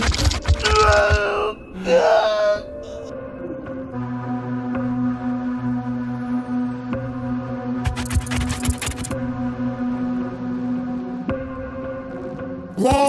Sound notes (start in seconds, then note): 2.1 Papi moans in pain; 4.3 ominous music; 7.9 scorpions scurry